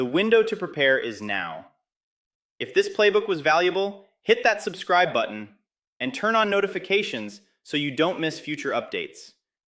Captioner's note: excited